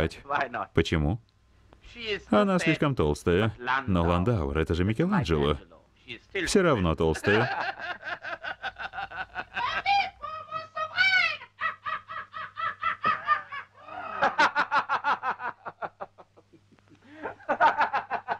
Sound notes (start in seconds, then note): 7.4 laughing; 14.6 laughing